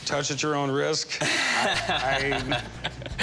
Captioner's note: laughing